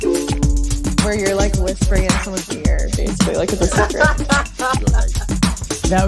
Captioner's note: laughs